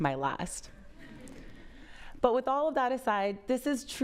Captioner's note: audience laughs